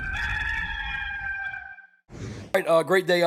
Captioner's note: gamecock crowing